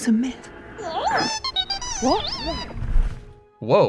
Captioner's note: frantic robot noises